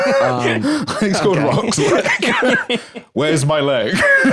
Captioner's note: laughs